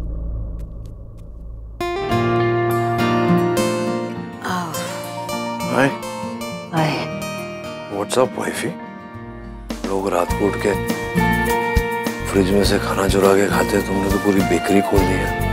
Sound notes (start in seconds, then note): 4.4 Ananya sighing